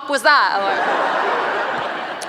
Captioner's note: laughter